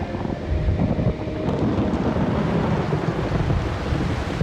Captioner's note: thunder rumbles